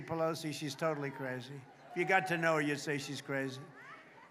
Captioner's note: applause